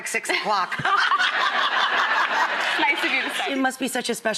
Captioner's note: laughter